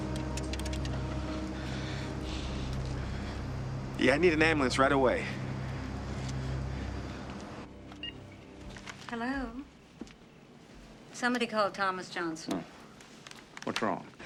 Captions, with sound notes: Yeah, I need an ambulance right away. [Telephone Beeping] Hello? - It's somebody called Thomas Johnson. - Oh.